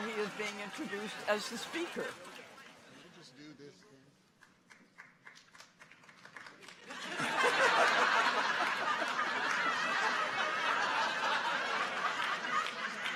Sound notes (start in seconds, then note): 6.9 audience laughs